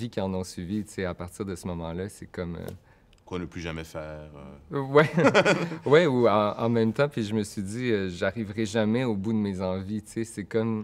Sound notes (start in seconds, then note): 6.8 laughs